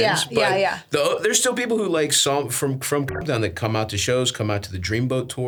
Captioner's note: beeps